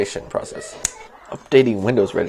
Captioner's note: finger Snap